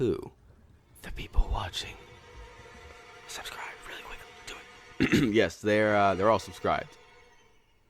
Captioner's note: clears throat